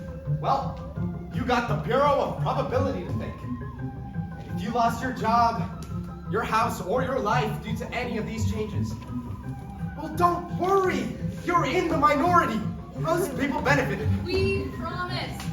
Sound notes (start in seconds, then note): none